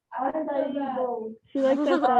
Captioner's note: faintly speaking